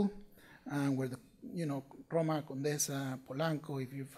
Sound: speaking foreign language

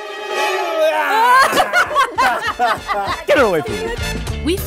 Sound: groaning; laughing

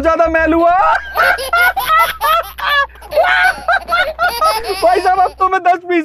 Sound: laughing

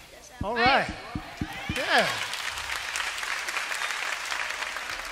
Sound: applause

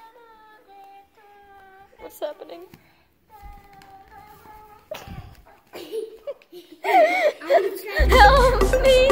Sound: laughs

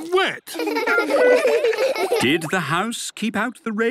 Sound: laughter

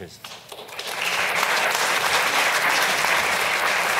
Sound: audience claps

